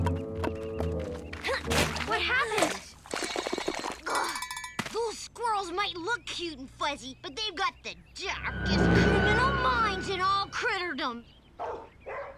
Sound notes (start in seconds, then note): 3.2 bells ringing; 11.6 dog barking